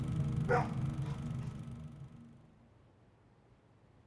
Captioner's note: dog barks